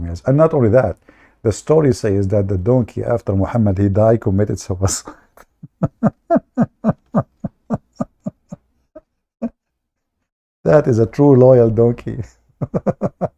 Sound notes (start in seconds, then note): 5.3 Ketawa